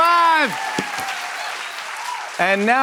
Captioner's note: cheers and applause